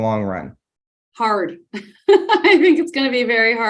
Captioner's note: chuckling